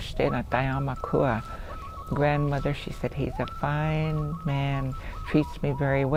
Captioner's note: speaks Dakotah